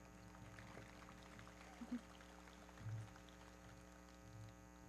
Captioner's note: everybody clapping